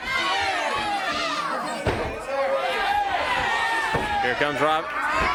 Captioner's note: crowd chatter